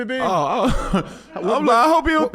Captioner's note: laughs